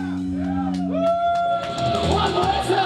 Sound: cheers

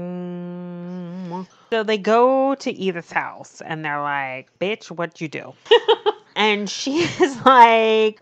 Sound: laughs

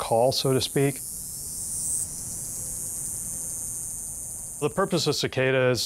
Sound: cicada buzzing continues

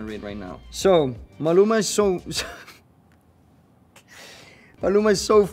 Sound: laughs

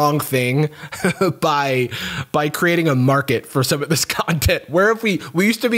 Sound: chuckles

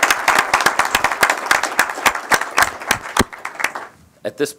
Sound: applause

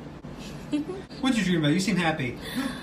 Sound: laughter

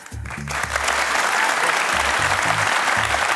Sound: applause

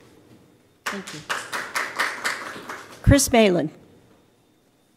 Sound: applause

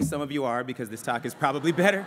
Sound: laughter

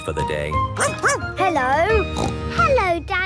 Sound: barking; snorting

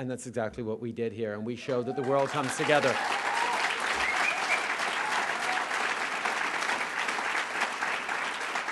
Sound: cheers & applause

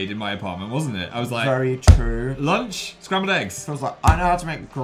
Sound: smacks table

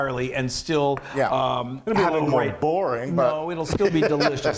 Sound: laughing

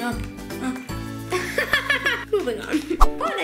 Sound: laughs

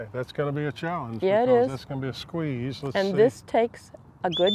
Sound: whistles

